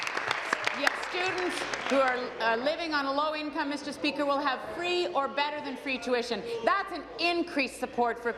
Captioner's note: applause